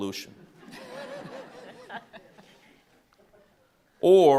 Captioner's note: all laughing